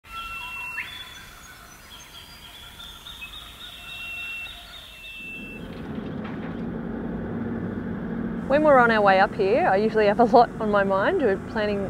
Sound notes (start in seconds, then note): 0.1 bird calls can be heard